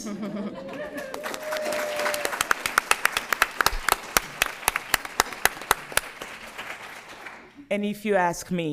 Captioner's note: applause